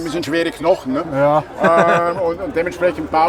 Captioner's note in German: lacht